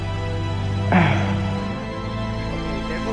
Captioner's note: clears throat